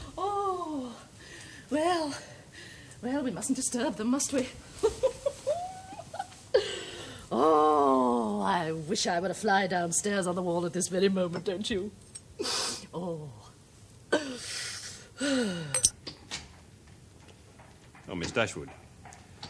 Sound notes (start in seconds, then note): 4.8 chuckles; 14.1 sighs